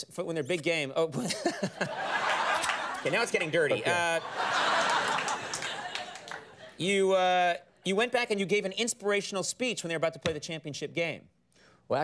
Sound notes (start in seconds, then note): 1.2 laughs; 4.2 studio audience laughs